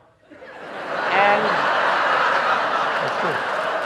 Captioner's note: audience laughing